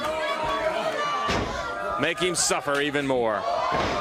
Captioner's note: crowd cheering